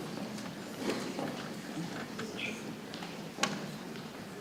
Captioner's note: people chattering softly